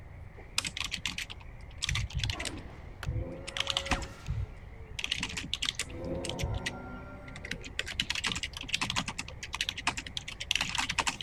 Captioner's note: typing sounds